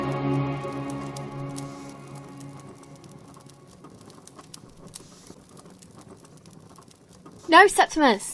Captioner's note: fire Crackles